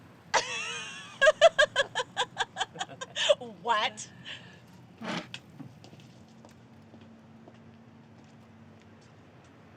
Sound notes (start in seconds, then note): 0.4 laughs; 7.4 footsteps departing